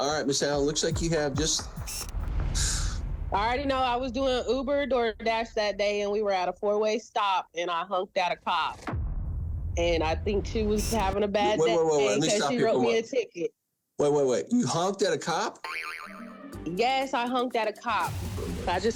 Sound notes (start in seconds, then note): 2.6 sighs; 15.6 boing